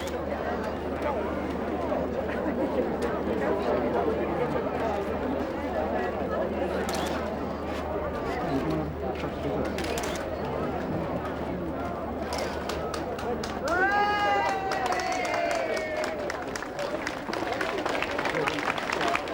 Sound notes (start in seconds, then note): 12.4 applauding; 12.6 crowd cheering